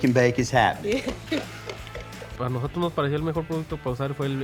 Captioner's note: laughs